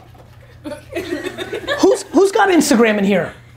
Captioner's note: audience laughing